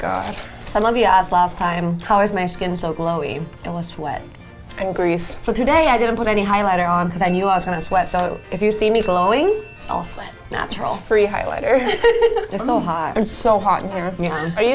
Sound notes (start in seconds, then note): 11.6 giggling